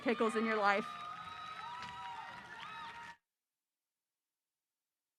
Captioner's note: audience applause